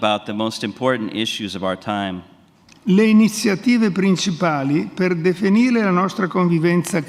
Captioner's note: speaks in Italian; speaks in Italian